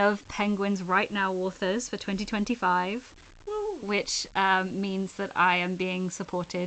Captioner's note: none